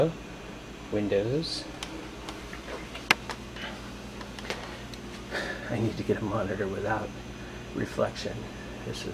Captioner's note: laugh